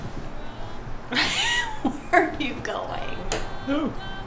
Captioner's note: laughing